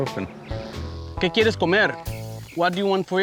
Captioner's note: speaking spanish